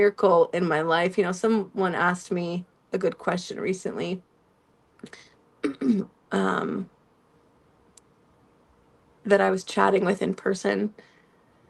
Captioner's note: clears throat